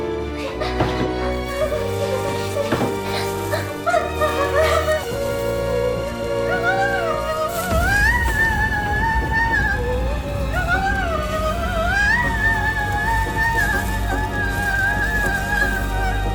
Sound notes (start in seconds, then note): 2.3 fire sizzling